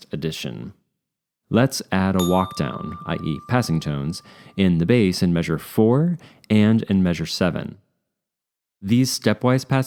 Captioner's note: ding